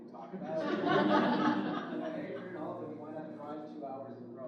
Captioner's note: audience laughs